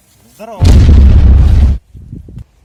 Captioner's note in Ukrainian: вибух